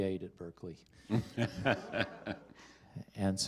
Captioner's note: laughter